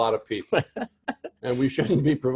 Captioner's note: laugh